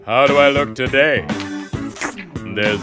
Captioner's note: slurps